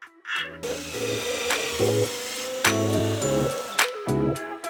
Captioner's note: upbeat music; saw sawing; upbeat music continues